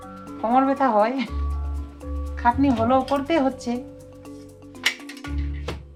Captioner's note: speaking foreign language